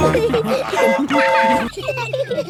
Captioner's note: train whistle toots